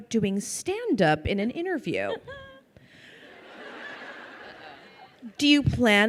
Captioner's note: crowd laughing